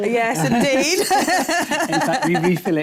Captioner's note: laughter